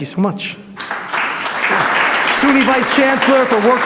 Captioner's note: audience applauds